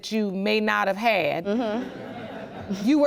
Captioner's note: scattered laughter